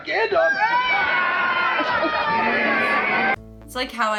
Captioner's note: kids yelling; audience laughs